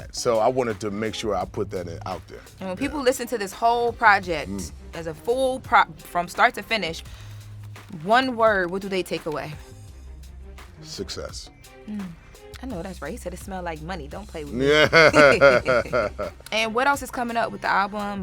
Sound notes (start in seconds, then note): 14.6 laughter